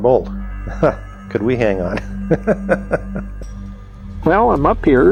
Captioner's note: laughs